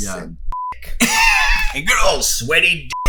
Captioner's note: laughs